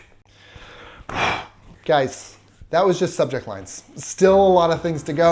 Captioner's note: sighs